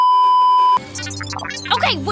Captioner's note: beeeeeep; beeps